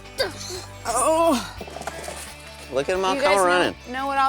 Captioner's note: groaning